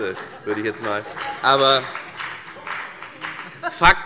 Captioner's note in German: Heiterkeit - Beifall bei der FDP